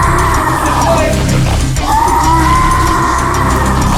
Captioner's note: zombie growling; dramatic music